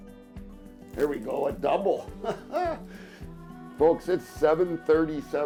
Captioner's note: laughs